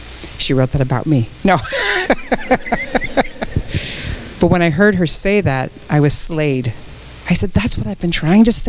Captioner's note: joking tone, audience laughs